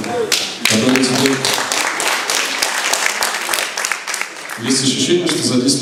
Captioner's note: applause